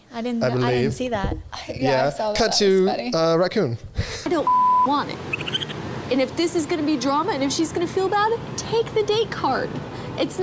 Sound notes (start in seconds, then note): 4.4 beeps